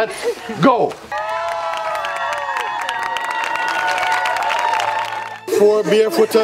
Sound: cheers and clapping

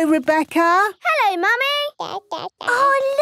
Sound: babbling

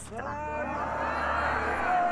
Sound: approving shouting of the crowd

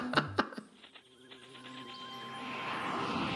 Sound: laughs

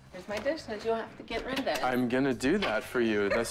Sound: laughs

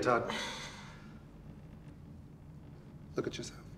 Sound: sighing

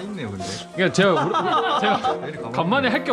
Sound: laughs

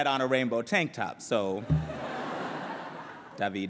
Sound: laughter

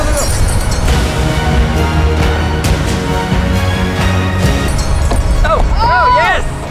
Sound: clanking; intense music

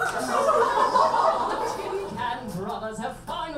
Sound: audience laughs

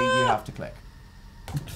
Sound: screams

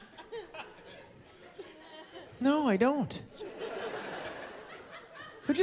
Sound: laughter

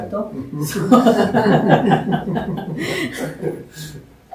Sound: laughter

